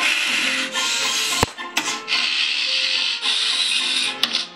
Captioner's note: light, upbeat music; saws buzzing